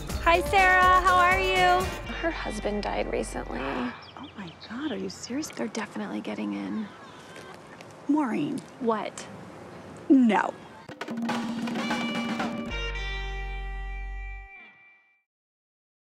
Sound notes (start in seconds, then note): 3.5 gasps